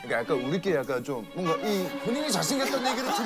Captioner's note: holding in laughter